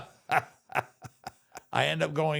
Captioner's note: The Undertaker laughs